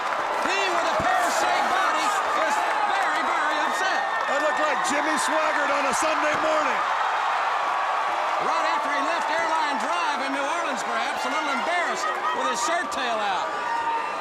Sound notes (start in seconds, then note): 0.0 crowd cheering; 6.7 crowd cheering; 14.0 crowd cheering